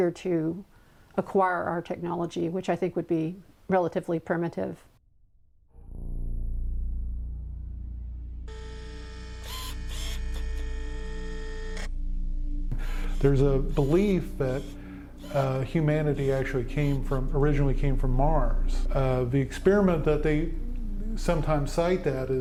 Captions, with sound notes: to acquire our technology, which I think would be relatively primitive. (mysterious music) (mechanism whirs) (rover whirs) -: There's a belief that humanity actually originally came from Mars. The experiment that they sometimes cite that